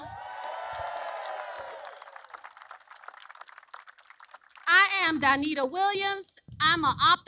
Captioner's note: applause